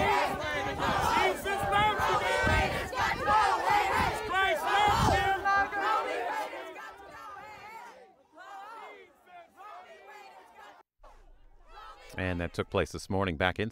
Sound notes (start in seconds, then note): 3.1 chanting